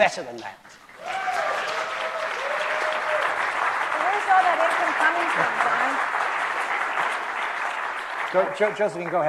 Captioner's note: applause